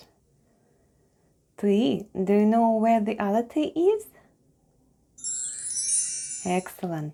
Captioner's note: chime sound